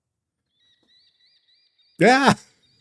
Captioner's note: birds chirping